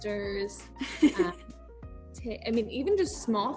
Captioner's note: laughing